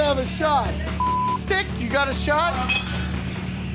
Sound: beep

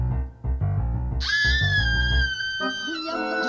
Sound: Julia screams

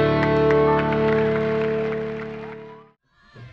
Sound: claps

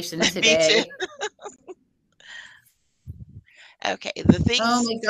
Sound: laughing

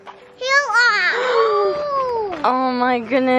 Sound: gasping

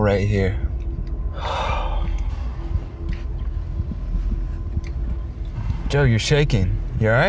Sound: sighs heavily

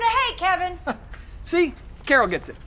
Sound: chuckle

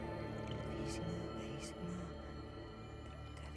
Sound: whispering in Chakobsa

